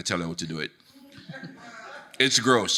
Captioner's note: audience laughing